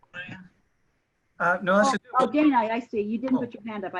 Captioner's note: multiple members chattering